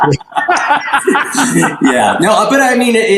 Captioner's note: both laugh